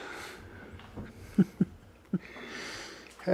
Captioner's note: chuckles